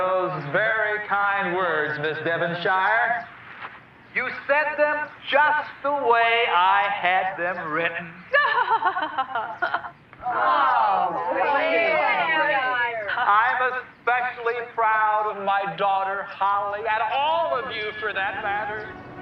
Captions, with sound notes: very kind words, Miss Devonshire. You said them just the way I had them written. - (laughing) (groaning) - I'm especially proud of my daughter Holly, and all of you for that matter.